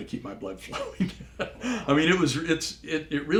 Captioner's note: laugh